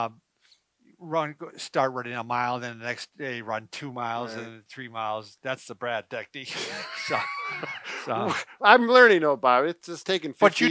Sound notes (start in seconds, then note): 6.5 laughs